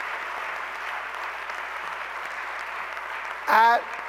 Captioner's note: applause